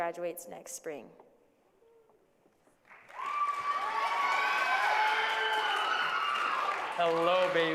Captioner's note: applause